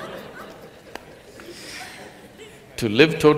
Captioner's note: laughter